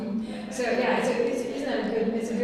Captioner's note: laughs